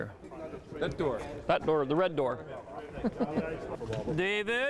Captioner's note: chuckles